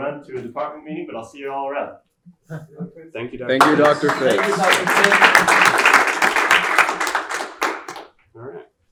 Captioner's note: clapping